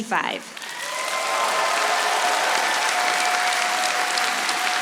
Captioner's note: audience applauding